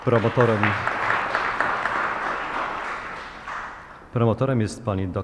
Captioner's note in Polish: oklaski